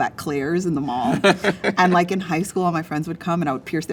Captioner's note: laughing